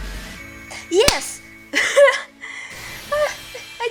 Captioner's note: clap